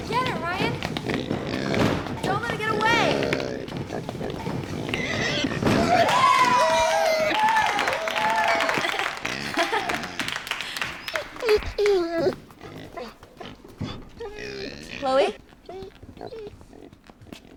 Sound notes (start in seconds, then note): 5.3 pig squeals; 5.7 cheering; 11.0 dog whines